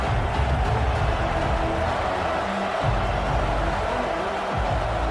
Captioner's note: crowd cheering